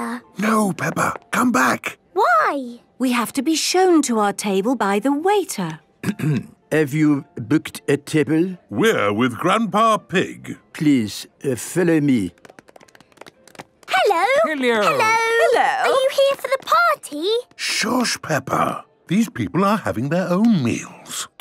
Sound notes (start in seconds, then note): 6.0 clears throat